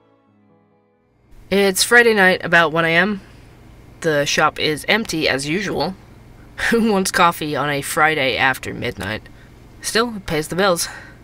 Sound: ambience - Coffee Shop

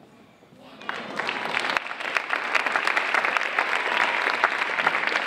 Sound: audience applauding

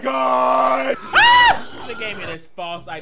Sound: screaming; boar squealing

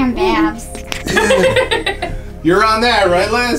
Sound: laughs

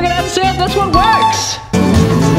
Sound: dinging; rock music

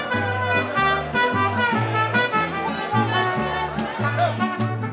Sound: chimes twinkle

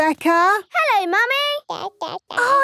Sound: babbling

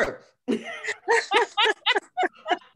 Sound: laughter

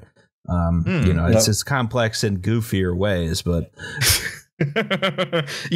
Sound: laughter

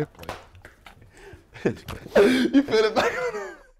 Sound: laughing

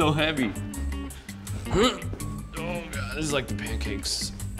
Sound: grunting in pain

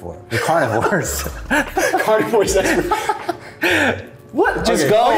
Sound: both laughing

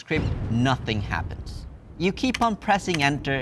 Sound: thunder claps

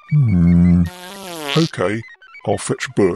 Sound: passing wind

